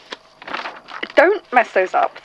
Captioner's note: noises of papers shuffling